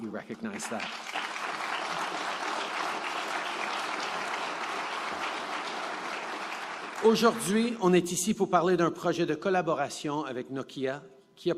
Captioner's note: applause; speaking French